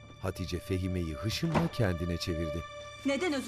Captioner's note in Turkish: Kapı kapanma sesi